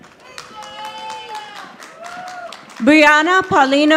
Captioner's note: audience applauding